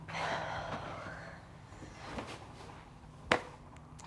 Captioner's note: Marie sighs